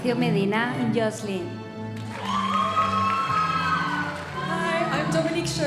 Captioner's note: audience applauding